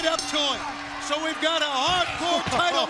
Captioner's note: bell ringing